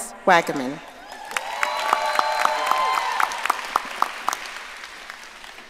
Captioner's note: audience applauding